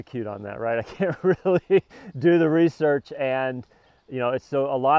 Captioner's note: laughs